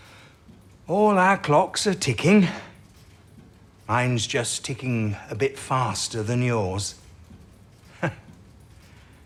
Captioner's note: he chuckles